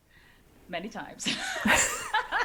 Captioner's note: laughs